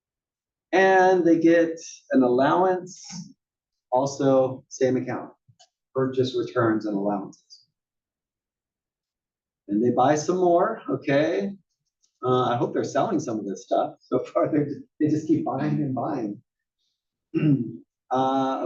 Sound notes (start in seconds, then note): 15.4 laugh; 17.3 cough